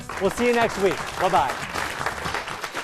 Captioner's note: applause